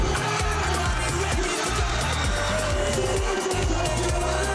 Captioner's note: crowd cheering